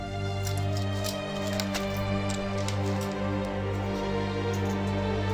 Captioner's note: metal tags clinking